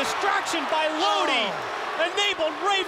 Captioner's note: crowd cheering